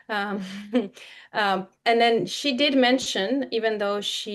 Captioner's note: chuckles